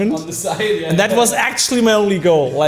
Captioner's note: laughing